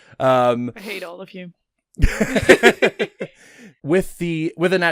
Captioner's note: laughter